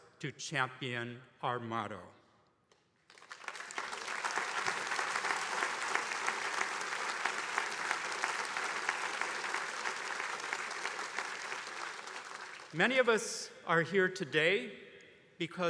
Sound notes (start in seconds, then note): 3.0 attendees applauding